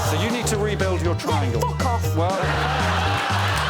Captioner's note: audience groans